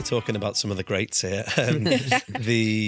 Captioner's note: guitar strumming; laughing; laughs